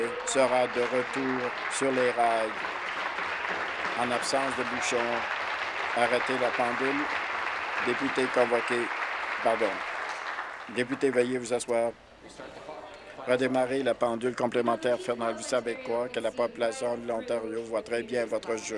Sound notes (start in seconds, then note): 5.6 applause